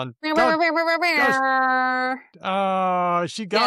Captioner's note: makes trumpet noises